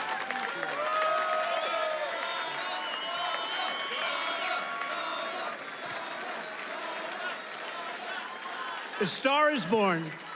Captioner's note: Audience chants "Donna."